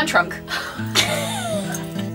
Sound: laughs

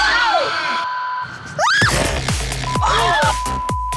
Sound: beep

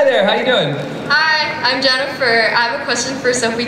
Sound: voiceover

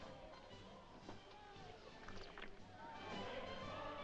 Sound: swilling sound; jovial music & singing

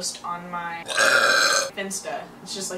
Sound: burps

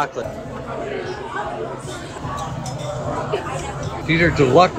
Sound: background talking

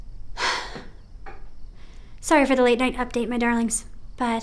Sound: sighs

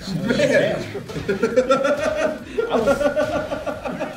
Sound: laugh

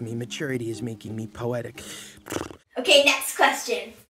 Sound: blows raspberry

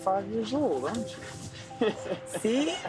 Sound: laughs

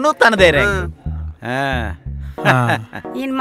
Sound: Nandan's father laughs

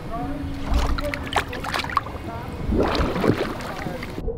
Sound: water gurgles

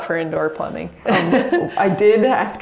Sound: laughs

